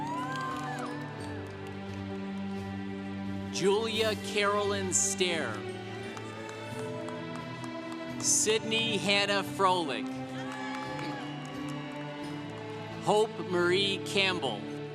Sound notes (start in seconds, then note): 0.0 congregation cheering; 6.2 congregation applauding; 10.6 congregation cheering